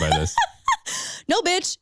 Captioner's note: laughing